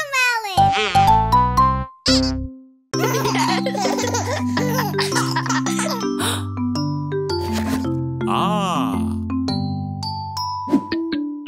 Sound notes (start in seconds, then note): 3.0 lively music; 3.0 chuckling; 6.8 gasping